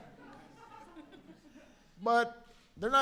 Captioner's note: laughter